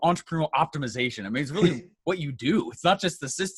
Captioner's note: laughs